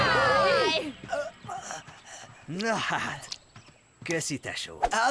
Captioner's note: breathing heavily